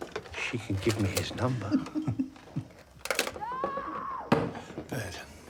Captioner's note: both chuckling; Anna screaming